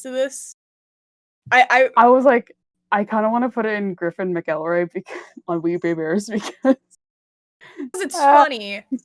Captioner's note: laughs